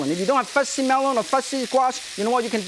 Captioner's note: none